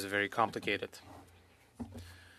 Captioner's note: speaking French